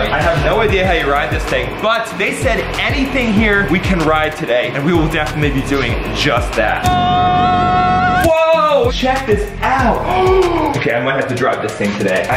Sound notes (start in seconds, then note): 6.8 screaming; 10.0 gasps